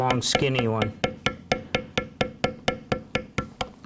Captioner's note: tapping